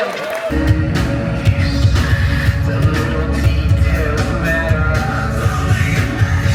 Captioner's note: guests cheer and clap; metal music